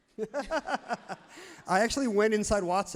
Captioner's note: everyone laughs loudly